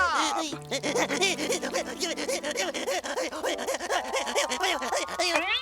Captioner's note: sobbing